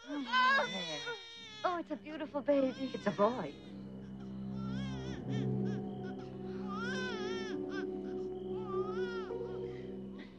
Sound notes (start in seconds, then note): 0.0 baby crying; 6.0 baby crying